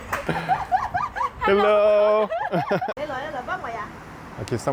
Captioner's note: giggles